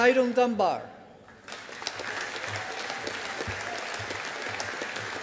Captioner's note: audience applauding